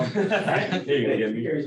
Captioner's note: laughter